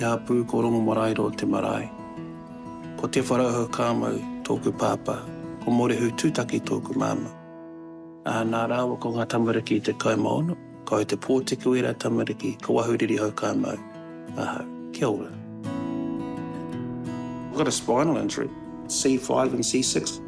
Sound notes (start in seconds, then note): 8.0 speaks te reo maori